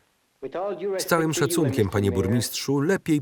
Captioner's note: townspeople chattering